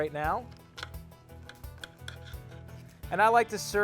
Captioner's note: cutting